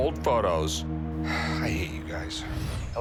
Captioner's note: sighs